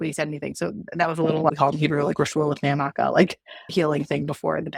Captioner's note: Hebrew